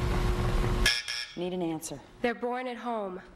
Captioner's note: buzzer